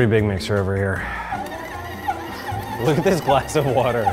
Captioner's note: mixer whirring